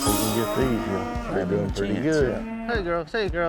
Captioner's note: all chattering